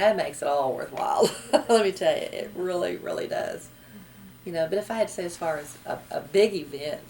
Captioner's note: laughs